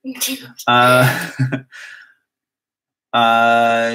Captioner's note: laugh